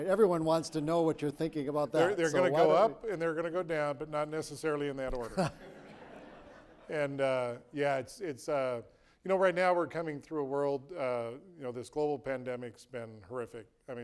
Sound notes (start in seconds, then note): 5.3 audience chuckling